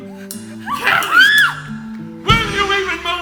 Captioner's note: Esther screams